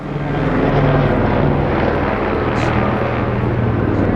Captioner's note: chopper whirling